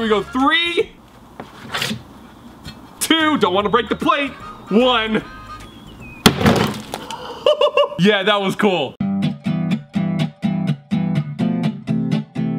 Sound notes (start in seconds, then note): 6.2 hammer smashes; 7.0 chuckles; 9.0 upbeat strumming music